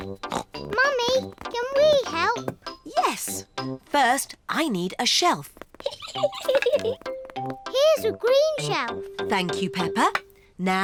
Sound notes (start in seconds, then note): 0.2 snorts; 5.8 giggles